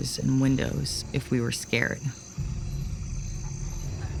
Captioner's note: crickets chirping